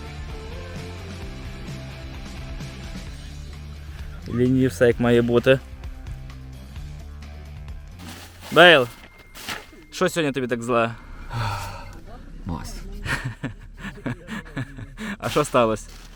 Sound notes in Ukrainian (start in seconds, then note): 11.2 Важко зітхає; 13.0 Сміється